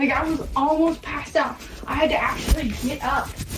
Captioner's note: none